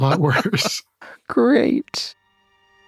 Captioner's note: laughing; mysterious music